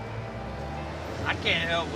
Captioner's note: engine running